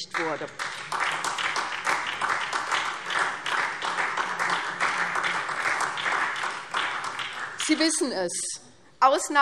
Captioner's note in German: Beifall SPD